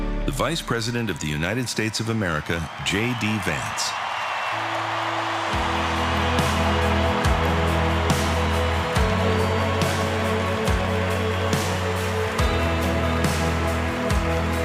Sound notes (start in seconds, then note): 3.8 cheers and applause